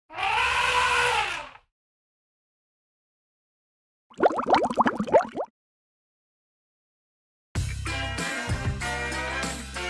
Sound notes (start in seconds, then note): 0.5 trumpeting; 4.1 bubbling